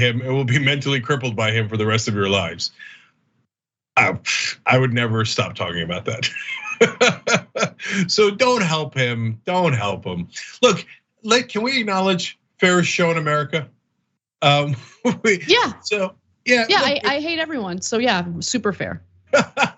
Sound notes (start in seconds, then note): 5.7 laugh; 14.4 laugh